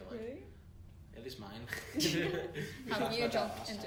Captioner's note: laughs